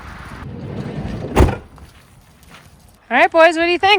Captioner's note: door clattering